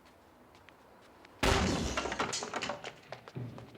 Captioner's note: bangs